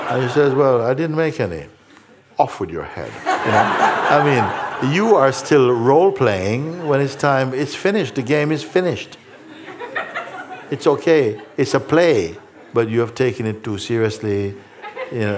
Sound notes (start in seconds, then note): 9.2 laughter